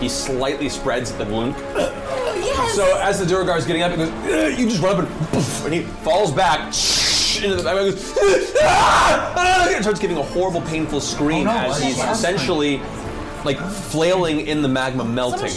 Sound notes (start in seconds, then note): 1.7 choking sound; 4.2 grunt; 6.7 hissing SFX; 8.2 screams